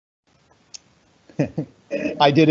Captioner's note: laughs